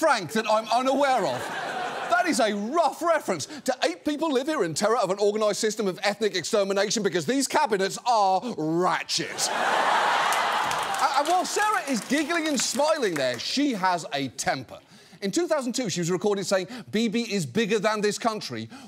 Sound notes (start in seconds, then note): 9.3 audience laughs, applauds